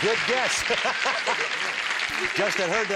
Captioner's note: laughter